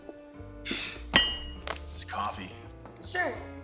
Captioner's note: scoffs